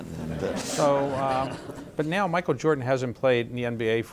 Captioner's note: laughter